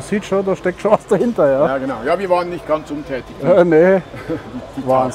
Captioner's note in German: lacht